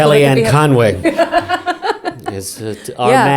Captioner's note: laughing